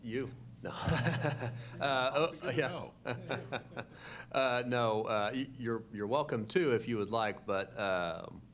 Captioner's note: laughs